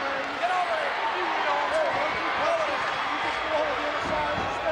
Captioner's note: crowd yelling